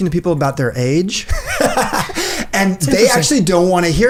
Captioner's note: laughs